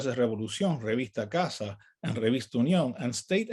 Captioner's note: speaks in native language